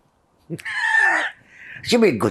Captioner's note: laughing